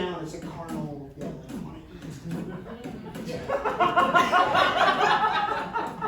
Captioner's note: imitates heart beat